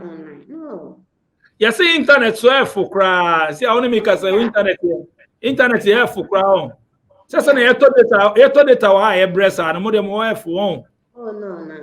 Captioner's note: exclaims